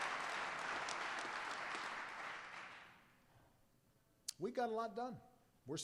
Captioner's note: applause